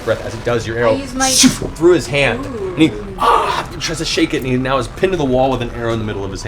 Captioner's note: shnk